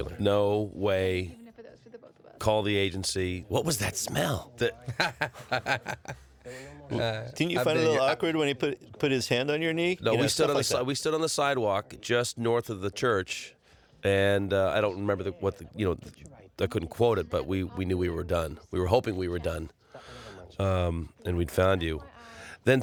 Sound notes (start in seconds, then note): 4.6 laughs